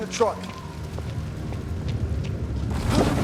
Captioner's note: rumbling